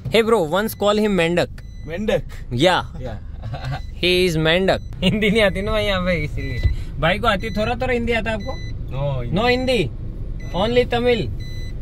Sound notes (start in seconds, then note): 3.0 chuckles